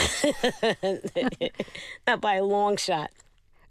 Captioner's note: laughter